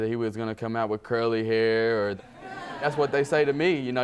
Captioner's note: audience laughing